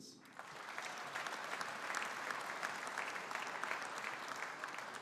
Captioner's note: audience applauding